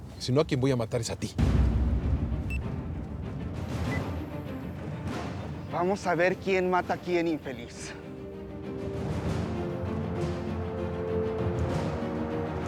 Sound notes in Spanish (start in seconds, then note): 3.9 Bip